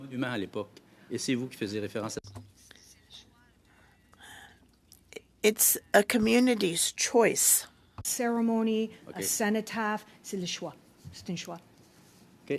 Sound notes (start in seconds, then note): 4.3 speaking French